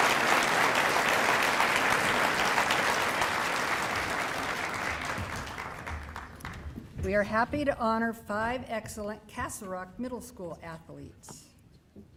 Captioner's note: applause